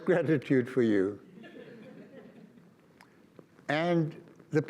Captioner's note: audience laughs